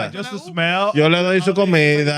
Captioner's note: speaking Foreign Language